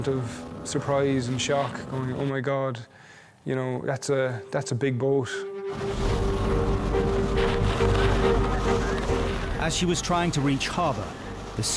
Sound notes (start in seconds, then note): 4.4 intense music; 5.7 water whooshing